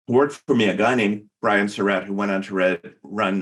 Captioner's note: faintly speaking